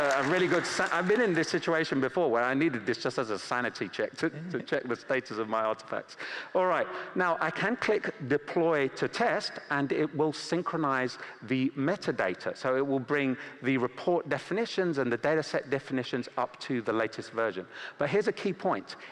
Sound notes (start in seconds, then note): 3.9 applause